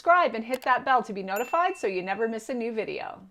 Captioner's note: bell dinging